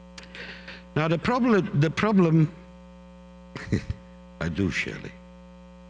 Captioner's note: laughing